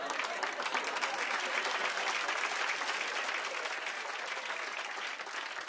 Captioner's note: cheers and applause